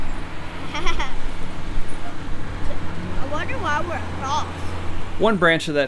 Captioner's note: laughing